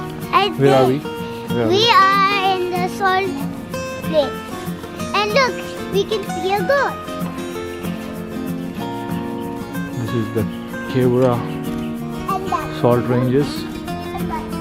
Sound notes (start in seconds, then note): 0.1 footsteps; 11.1 footsteps